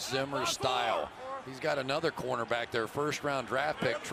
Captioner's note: cheering